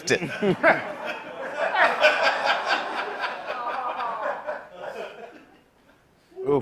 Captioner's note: laughter